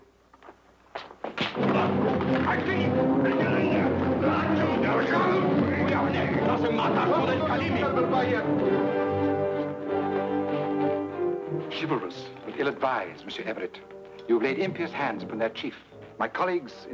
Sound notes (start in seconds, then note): 0.2 speaks foreign language; 4.3 intense music; 5.2 men shouting in foreign language